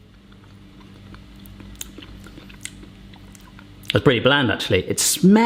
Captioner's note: chewing